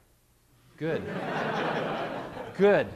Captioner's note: laughter